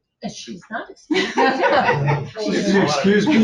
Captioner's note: people laughing